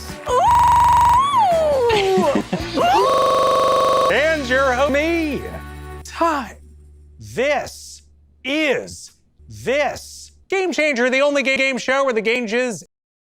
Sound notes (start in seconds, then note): 0.5 glitchy stuttering again again; 1.8 chuckles; 2.3 glitchy stuttering again again; 2.9 glitchy stuttering again again again